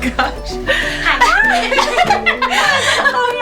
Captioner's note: laughing; laughter